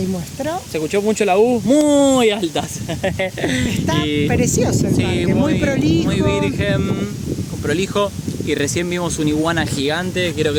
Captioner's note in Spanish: risas